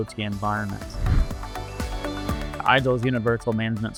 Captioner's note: upbeat music continues; air whooshes